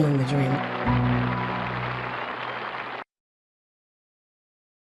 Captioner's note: audience claps